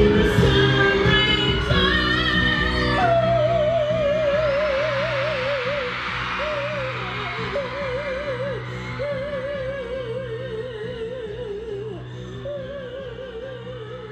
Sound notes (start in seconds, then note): 3.8 crowd Cheering